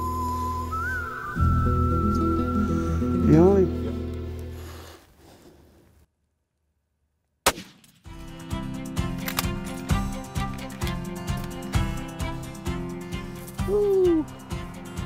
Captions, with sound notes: (longing whistle) - The only.. (gun shot) (upbeat music) - Woo!